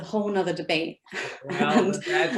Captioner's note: laughs